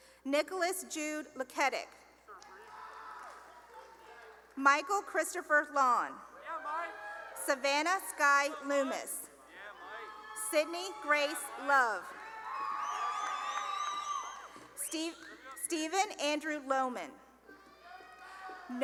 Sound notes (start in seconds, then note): 2.3 cheering; 6.3 cheering; 12.4 cheering and applause; 17.4 cheering